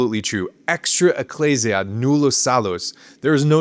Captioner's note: speaking in Latin